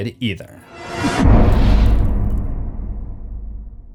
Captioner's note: impact